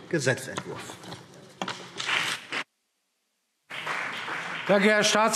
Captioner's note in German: Beifall CDU und BÜNDNIS 90/DIE GRÜNEN